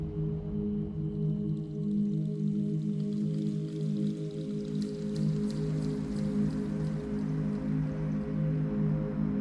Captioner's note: sizzling